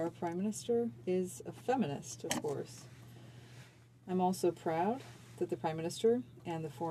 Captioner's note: speaking french